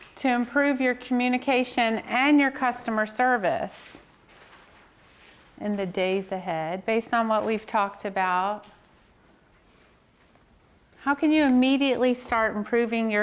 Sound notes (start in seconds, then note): none